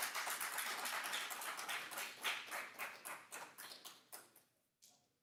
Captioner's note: audience applauding